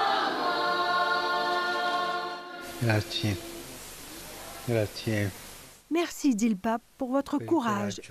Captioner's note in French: chants